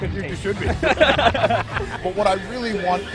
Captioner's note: laughter